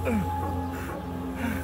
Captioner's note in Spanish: Quejidos